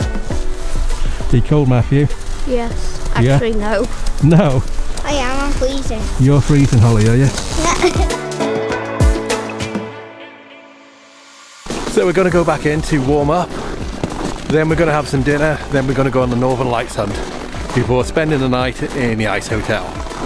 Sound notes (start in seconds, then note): 7.5 chuckles